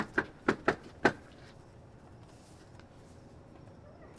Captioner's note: knocks on door